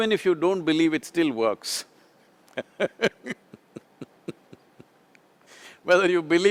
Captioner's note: laughs